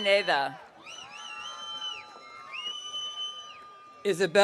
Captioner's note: audience cheering